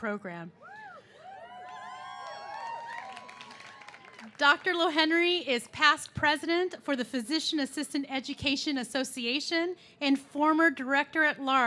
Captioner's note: cheers and applause